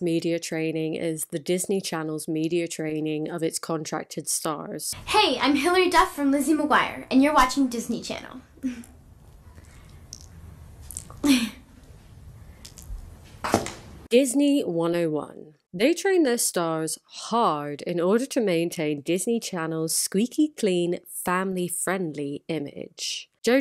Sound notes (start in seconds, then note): 11.2 awkward laugh